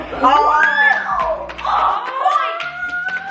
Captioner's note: kids applaud